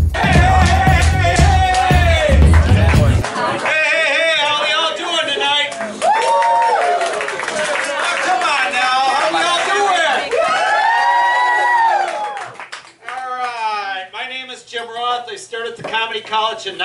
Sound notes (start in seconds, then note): 6.0 audience cheers; 11.2 louder cheering